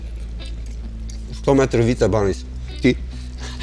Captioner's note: eating